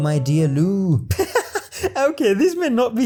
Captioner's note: heheheh